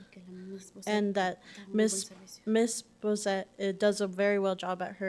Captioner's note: whispering in Spanish